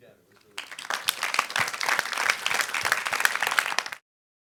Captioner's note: everybody applauding